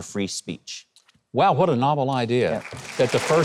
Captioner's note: audience cheers